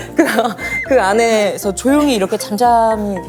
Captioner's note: breathing talker